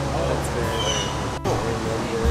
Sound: bird calls

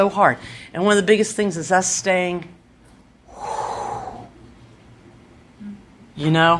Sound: dramatic sigh

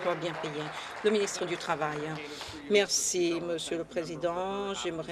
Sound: applause

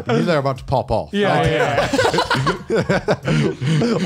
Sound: laughs

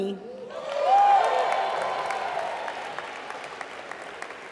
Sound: applause

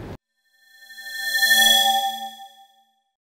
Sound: swoosh

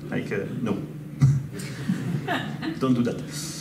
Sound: audience laughs

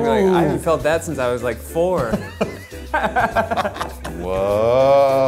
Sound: both laugh

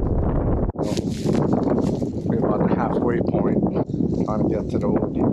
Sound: gusty winds

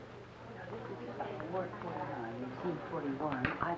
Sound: staff nurse chatter

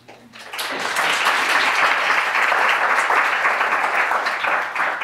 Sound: audience clapping

